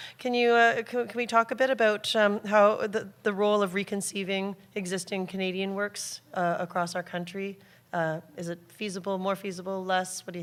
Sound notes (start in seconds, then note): none